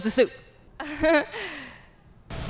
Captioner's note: confused laughter